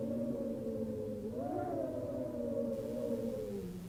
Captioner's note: wind howls